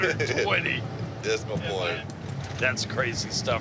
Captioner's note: laughs